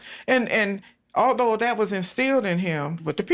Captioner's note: none